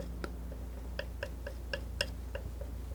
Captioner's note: tapping